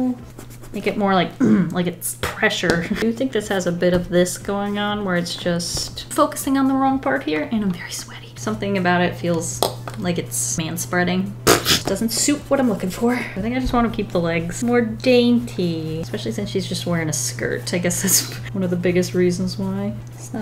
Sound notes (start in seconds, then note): 11.1 laughs